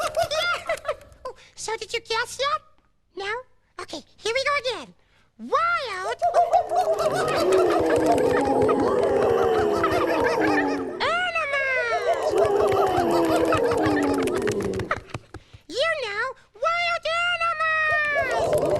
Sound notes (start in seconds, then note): 6.5 hooting; 6.6 roaring; 8.5 growling; 12.0 growling; 13.5 hooting; 15.0 roaring